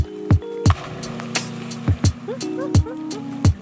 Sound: splashes; laughs

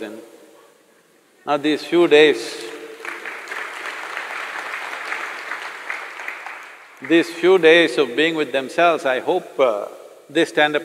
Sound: applause

